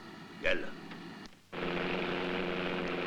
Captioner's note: Arabic spoken audio